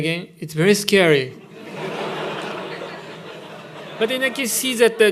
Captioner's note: laughter